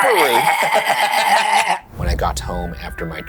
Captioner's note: laughs; choking